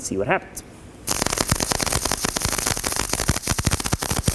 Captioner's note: weld popping